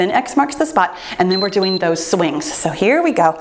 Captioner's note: timer beeps